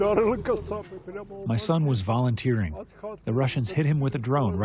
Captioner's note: through translator